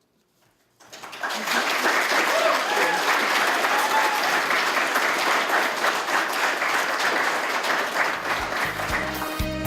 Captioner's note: applause; closing music